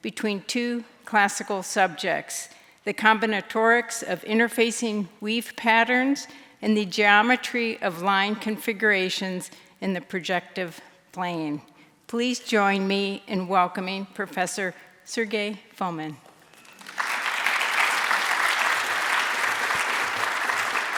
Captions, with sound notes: between two classical subjects, the combinatorics of interfacing weave patterns, and the geometry of line configurations in the projective plane. Please join me in welcoming Professor Sergey Fomin. (audience applauding)